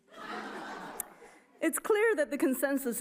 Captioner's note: audience chuckles